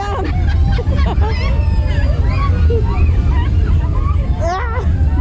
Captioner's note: giggling